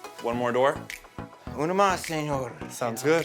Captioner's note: in Spanish